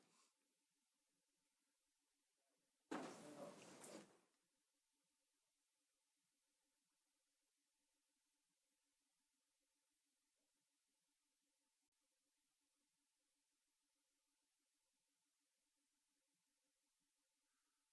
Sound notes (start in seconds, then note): 3.7 moment of silence